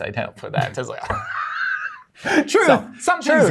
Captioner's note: laughter